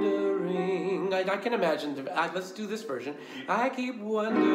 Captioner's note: speaking